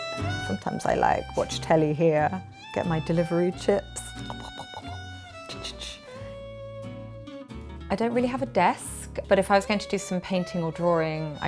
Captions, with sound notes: Sometimes I, like, watch telly here, get my delivery chips. [gobbles and snuffles] I don't really have a desk, but if I was going to do some painting or drawing,